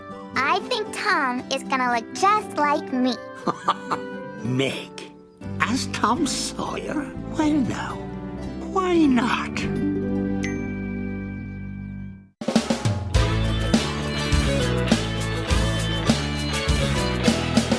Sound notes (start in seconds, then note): 3.3 chuckling; 12.4 instrumental music